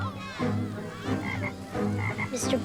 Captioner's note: frog croaking